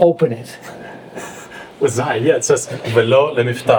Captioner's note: laughing